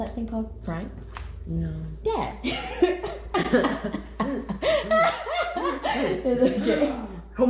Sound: laughs

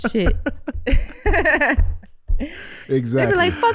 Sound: Amber laughs

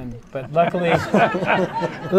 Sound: laughter

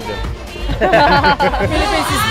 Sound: laughter

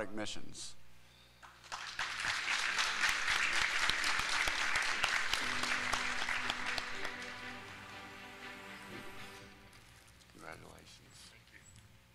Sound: applause

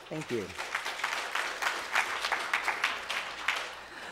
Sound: clapping

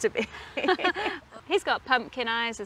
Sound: both laugh

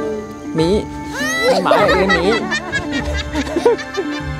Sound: các cô gái đang cười; girls laughing

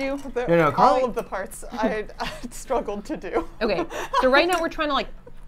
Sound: laughs

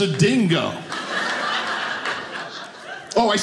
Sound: audience laughing

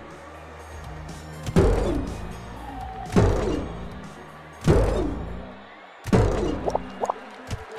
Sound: jump sound

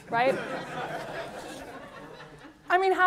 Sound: laughter

